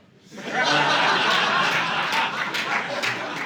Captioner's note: audience laughing